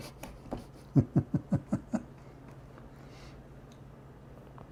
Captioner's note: Ketawa